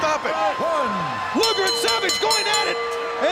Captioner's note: bell ringing